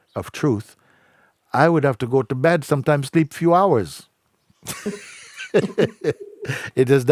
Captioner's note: laughs